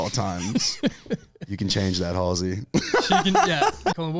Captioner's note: laughs